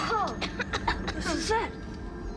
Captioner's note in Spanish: niños tosiendo